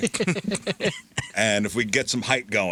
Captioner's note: laughing